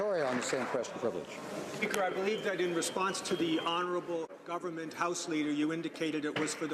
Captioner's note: applause